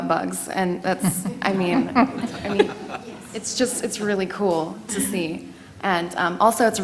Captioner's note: laugh